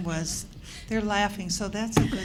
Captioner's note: laughter